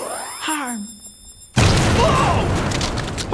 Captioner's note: booooom!!!!